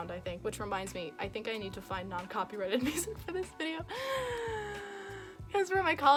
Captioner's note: nervous inhale